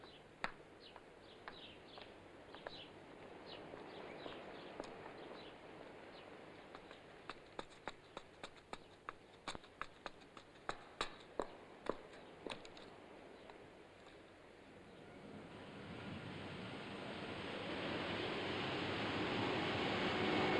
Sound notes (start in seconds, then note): 6.6 footsteps; 15.1 wind blowing